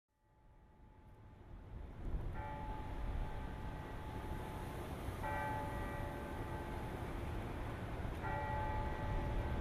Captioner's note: bells tolling